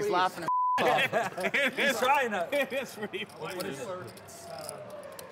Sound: laughs

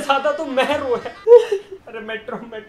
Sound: sobs

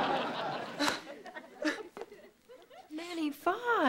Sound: sobbing

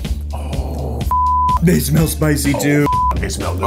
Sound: beep

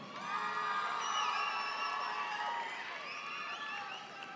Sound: audience applauding

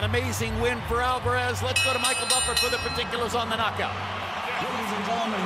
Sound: bell rings

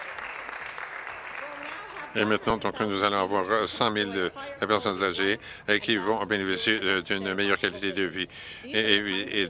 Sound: some Applause

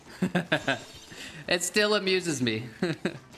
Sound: laughs

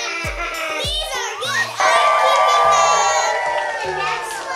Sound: laughing; cheering

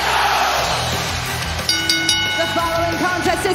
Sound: bell

